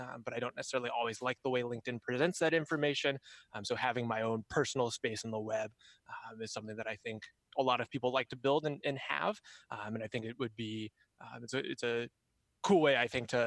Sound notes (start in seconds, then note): none